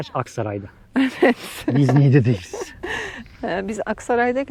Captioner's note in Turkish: kahkaha